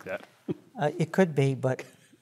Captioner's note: laugh